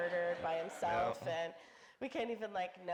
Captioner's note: audience laughing